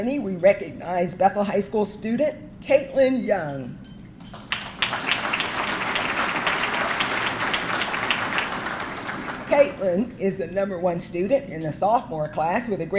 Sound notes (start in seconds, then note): 4.3 audience clapping